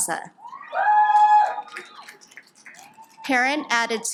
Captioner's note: audience applauds